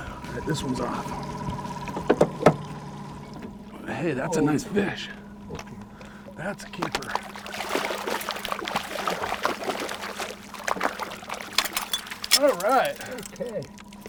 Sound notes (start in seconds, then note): 6.7 fish splashing